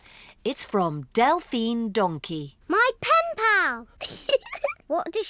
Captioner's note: giggles